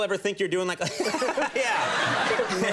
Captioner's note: all laughing